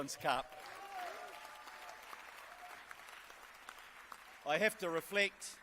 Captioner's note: applause and cheers